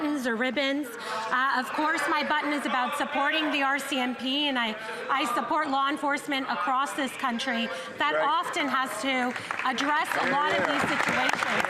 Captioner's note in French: voix de l'interprète